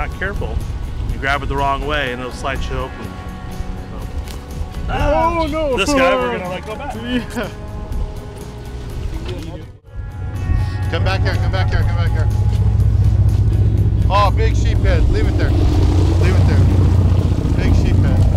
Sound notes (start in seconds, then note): 4.8 man shouting in background; 13.4 sound of boat engine